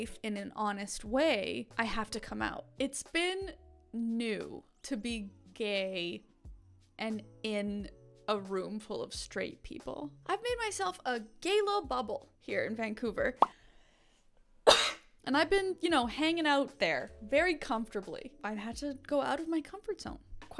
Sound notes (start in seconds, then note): 13.6 bubble popping; 14.6 coughing